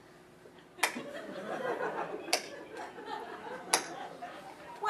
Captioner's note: sarcastic slow clap